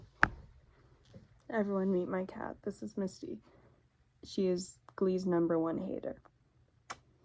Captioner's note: kiss